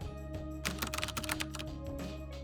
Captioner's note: keyboard clacking